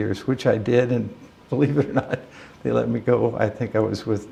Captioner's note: chuckle